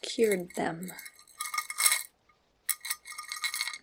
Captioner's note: jewelry clicking